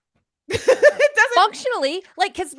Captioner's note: laughs